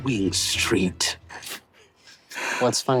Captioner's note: Zac chuckles